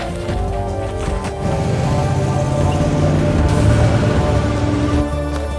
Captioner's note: engines revving